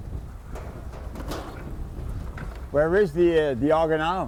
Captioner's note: metal clanging